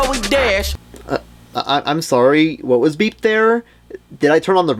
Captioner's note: stammers